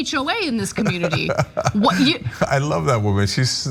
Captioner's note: laugh